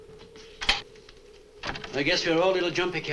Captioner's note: door opens